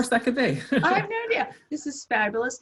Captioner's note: laughs